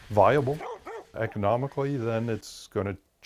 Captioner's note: dog barks